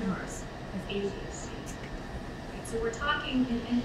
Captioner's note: speaking away from mic